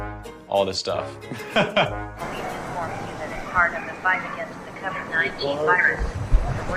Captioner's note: loudspeaker; chuckles; loudspeaker